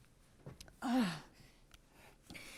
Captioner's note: groans